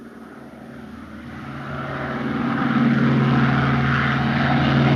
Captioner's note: engine roaring